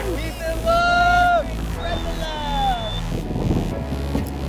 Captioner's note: crowd chattering